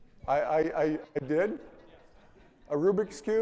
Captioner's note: audience laughing